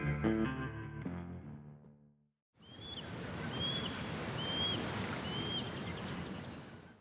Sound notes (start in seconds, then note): 2.6 birds chirping